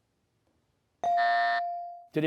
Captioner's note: ringer dings; buzzer